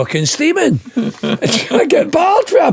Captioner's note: laughing